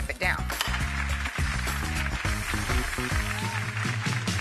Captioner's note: clapping